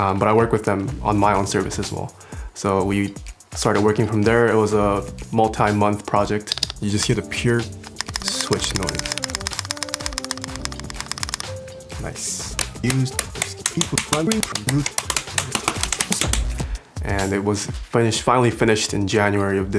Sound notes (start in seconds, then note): 7.8 tapping noise; 12.5 clicking sounds